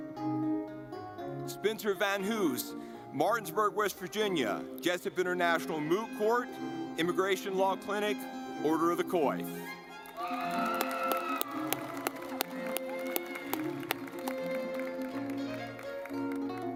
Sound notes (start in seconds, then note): 9.7 lively music; 9.8 audience clapping